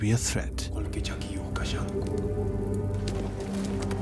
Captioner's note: man speaks in foreign language